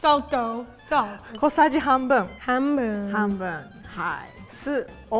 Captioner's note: speaking in Japanese